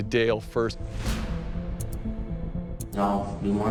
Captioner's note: clock ticking